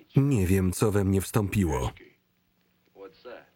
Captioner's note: non-english